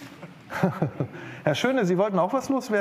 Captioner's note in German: Kurzes Lachen